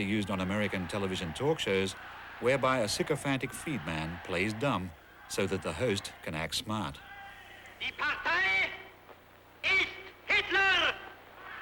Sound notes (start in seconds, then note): 8.5 speaking german